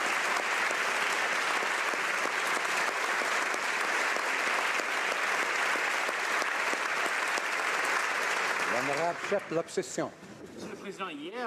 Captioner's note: applause